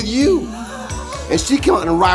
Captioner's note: laughing